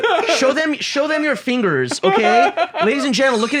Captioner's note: laugh